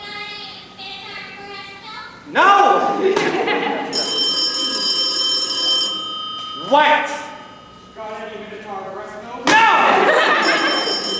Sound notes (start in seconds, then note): 3.8 phone ringing; 10.1 phone ringing